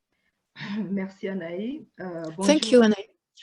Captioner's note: speaking french